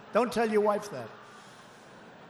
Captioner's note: laughter